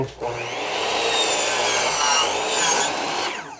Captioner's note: saw whirs